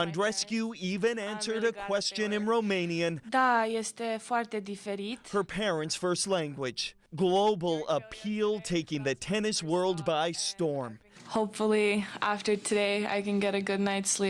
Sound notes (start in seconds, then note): 4.5 speaking romanian